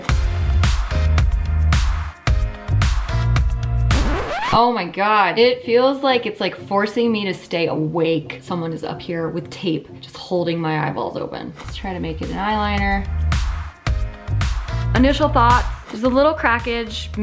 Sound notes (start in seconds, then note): 0.0 light electronic music; 3.9 record scratches; 13.3 light electronic music